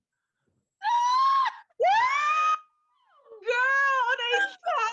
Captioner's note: shouts loudly